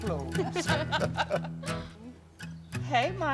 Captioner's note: all laughing